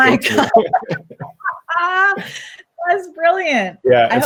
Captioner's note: laugh